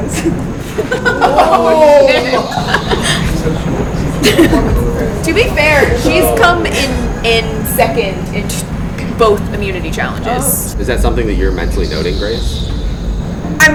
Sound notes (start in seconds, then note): 0.1 laughing